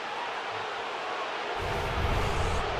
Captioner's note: crowd booing